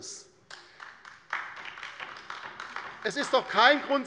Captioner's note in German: Beifall bei der LINKEN